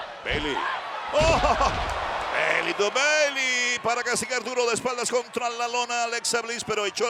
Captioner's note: laugh